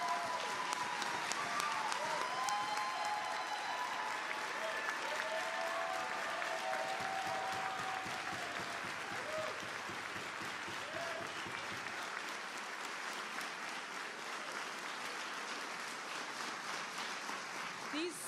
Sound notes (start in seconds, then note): 6.3 applause